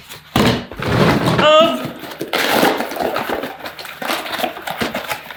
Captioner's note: cardboard rustles